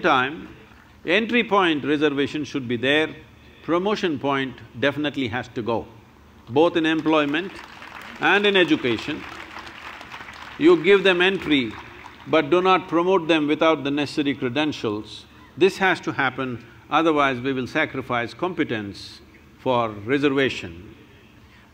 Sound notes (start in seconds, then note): 6.8 applause